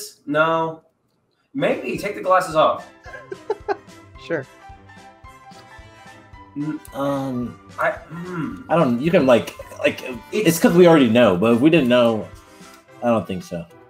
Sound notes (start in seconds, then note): 3.0 laughs